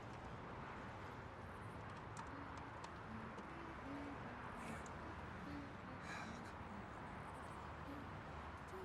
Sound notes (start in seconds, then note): 6.0 sighs